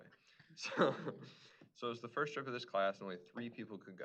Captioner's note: laughs